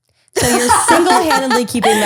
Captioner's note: laughter